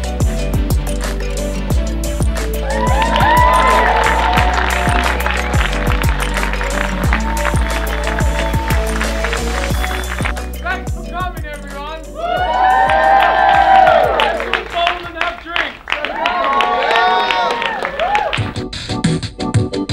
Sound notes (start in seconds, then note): 2.5 applause, cheers; 12.1 applause, cheers